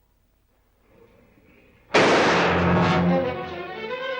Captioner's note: gunshot